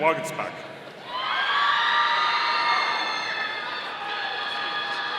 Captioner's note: audience cheering